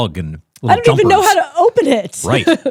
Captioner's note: laughing